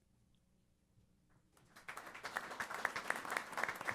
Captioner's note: applause